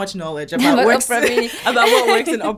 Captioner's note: laughing